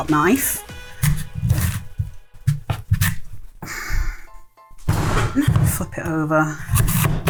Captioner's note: slicing bang